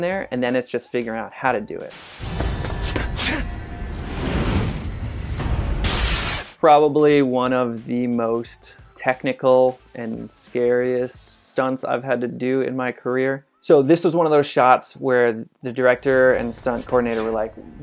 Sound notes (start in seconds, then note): 1.9 static noise; 2.8 breaking glass; 2.8 running sound effects